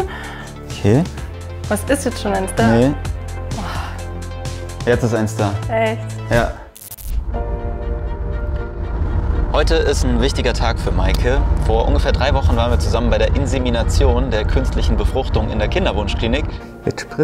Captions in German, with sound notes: Okay. Was, ist jetzt schon eins da? - Nee. (Seufzen) Jetzt ist eins da. Echt? - Ja. (Erwartungsvolle Musik) Heute ist ein wichtiger Tag für Meike: Vor ungefähr drei Wochen waren wir zusammen bei der Insemination, der künstlichen Befruchtung in der Kinderwunschklinik.